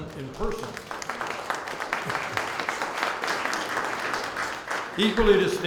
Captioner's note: applause